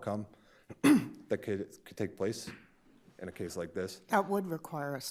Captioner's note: clears throat